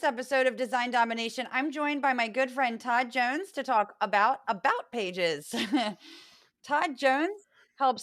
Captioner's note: laugh